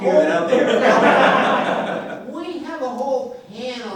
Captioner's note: laughing